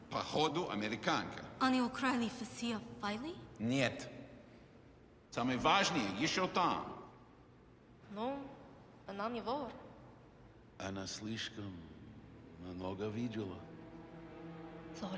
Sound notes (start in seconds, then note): 0.2 Russian agent speaking in a foreign language; 1.7 Irina speaking in a foreign language; 3.7 Russian agent speaking in a foreign language; 8.2 Irina speaking in a foreign language; 10.9 Russian agent speaking in a foreign language